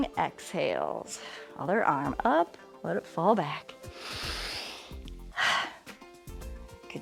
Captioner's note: inhales and exhales